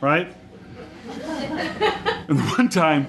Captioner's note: audience laughs